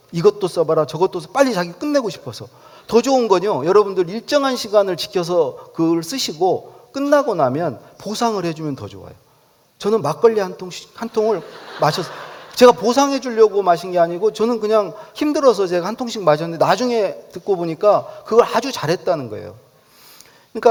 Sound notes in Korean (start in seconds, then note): 11.1 웃음